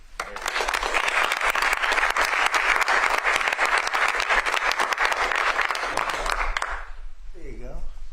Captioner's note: applause